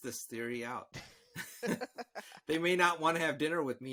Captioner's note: all laughing